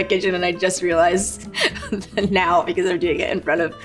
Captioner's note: chuckles